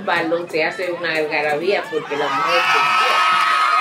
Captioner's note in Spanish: Aplausos